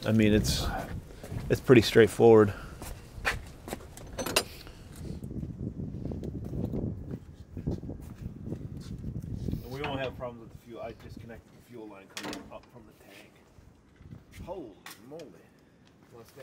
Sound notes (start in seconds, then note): none